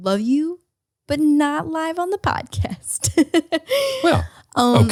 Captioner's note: laughs